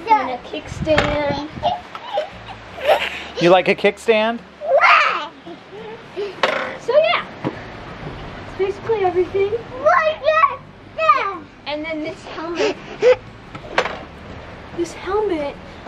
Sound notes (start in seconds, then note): 1.5 child laughs